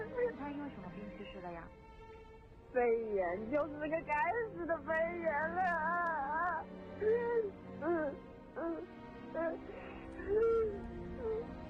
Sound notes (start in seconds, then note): 6.1 wailing